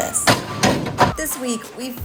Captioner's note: metal slamming